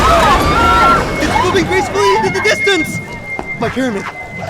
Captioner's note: screaming